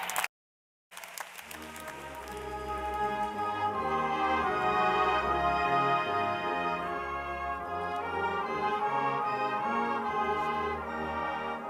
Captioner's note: applause